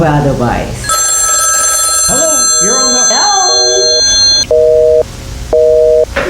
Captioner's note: riiinnngg; tone